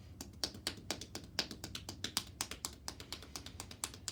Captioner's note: hands tapping